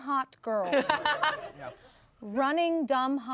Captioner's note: everyone laughs